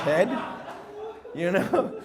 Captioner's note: audience laughs